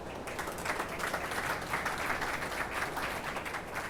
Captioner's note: attendees applauding